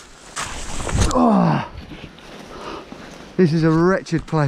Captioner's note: grunting